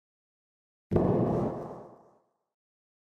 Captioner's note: explosion sound